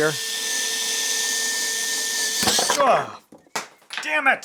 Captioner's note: drill whirring